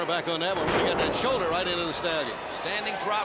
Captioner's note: crowd chatter